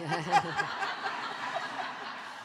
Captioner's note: audience laughing